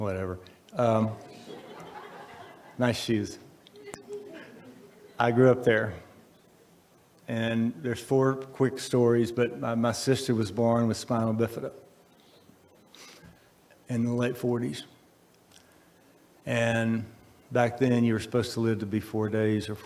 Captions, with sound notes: Whatever. (audience laughs) Nice shoes. I grew up there, and there's four quick stories. But, my sister was born with spina bifida in the late forties. And, back then you were supposed to live to be four days,